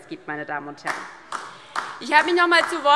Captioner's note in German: Beifall DIE LINKE